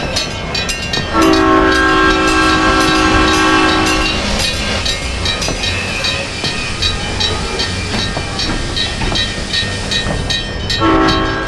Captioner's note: SP Cab Car horn, brakes squealing